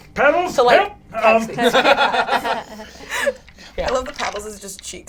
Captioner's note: all laugh